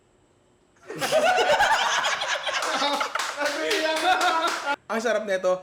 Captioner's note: laughter